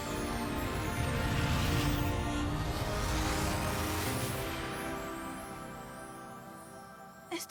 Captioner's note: whoosh